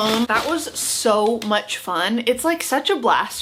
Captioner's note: package shuffling